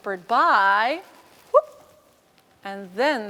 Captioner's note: whoop